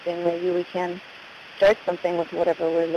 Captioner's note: static